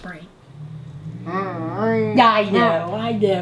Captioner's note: humming